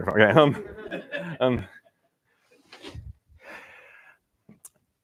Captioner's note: laughter